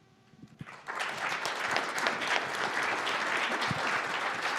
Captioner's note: applause